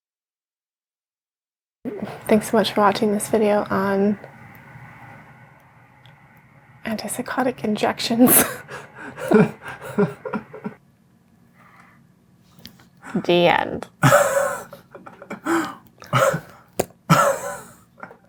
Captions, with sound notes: Thanks so much for watching this video on antipsychotic injections(laughs). The end